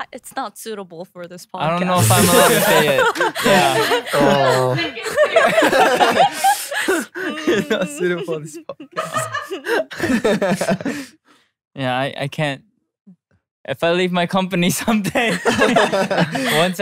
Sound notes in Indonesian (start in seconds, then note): 9.0 tertawa; 15.1 tertawa